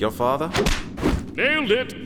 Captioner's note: clap